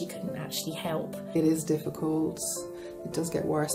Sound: voiceover

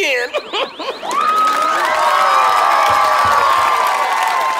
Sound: laughs; audience cheers

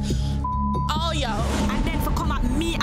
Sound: beep

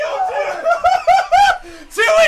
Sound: screams

